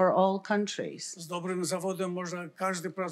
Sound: foreign language

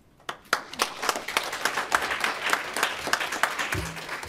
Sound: audience applauding

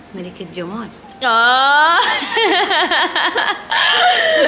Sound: laughing

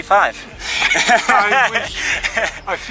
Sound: laughs

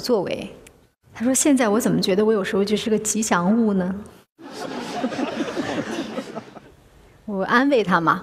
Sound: laughter

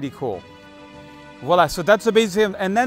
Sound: speaks in foreign language

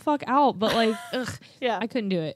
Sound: murmurs

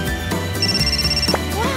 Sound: ringing

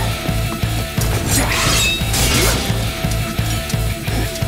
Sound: banging

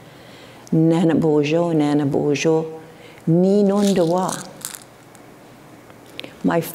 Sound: foreign speaking; foreign speaking

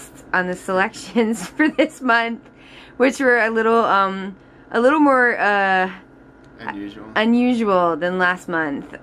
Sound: laughs

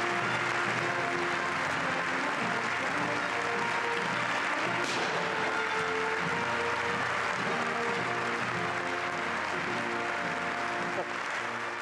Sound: applause

